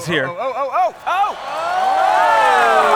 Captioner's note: cheers & applause